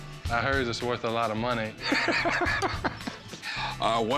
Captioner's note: laughs